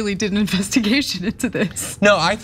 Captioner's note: laugh